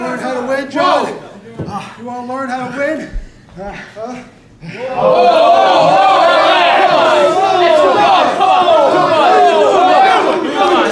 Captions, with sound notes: You want to learn how to win, John? You want to learn how to win? [AUDIENCE CHEERING]